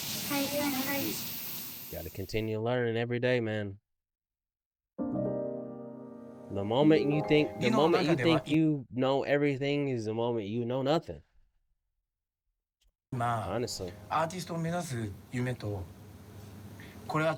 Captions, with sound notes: Gotta continue learning every day, man. (gentle music) The moment you think, the moment you think you know everything is the moment you know nothing. (speaking in foreign language)